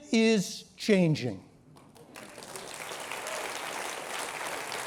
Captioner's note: applause